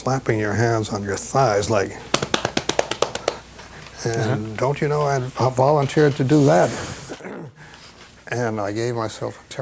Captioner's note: slaps